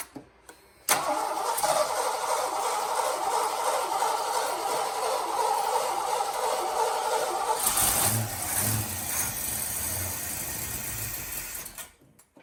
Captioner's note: engine